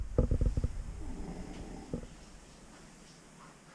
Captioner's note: snore